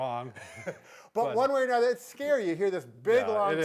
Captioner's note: chuckles